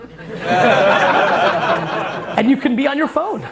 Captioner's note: crowd laughter